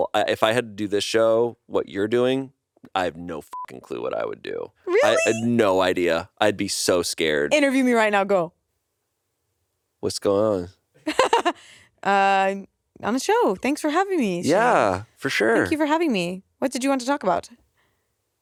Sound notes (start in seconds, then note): 3.4 beep; 11.1 laughs